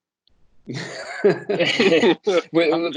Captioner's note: laughter